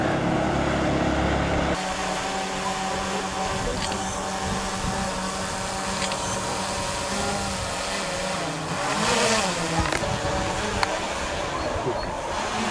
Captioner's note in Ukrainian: Звук квадрокоптера